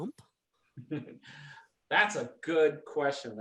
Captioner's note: laughs